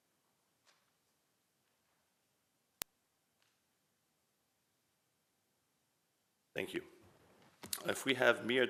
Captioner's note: moment of silence